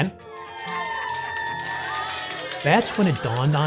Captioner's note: nurses cheering